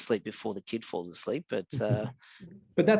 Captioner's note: chuckles